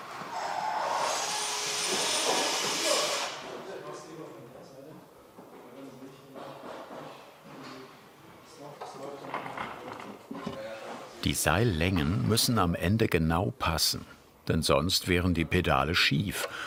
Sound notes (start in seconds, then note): 0.9 high-pitched whirring, background conversation